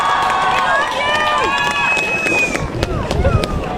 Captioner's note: crowd shouting: We love you!